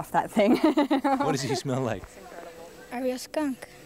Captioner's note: laughing